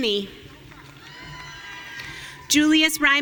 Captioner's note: audience cheering